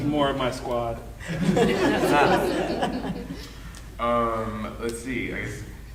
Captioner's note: audience laughing